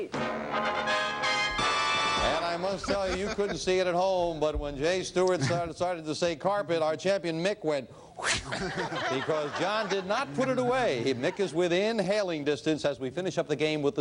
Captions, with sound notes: And I must tell, you couldn't see it at home, but when Jay Stewart started to say carpet, our champion Mick went, "Whew!" (laughter) because John did not put it away. Mick is within hailing distance as we finish up the game with the speed round. 60 seconds on the clock, please.